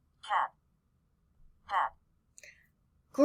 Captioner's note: computer voice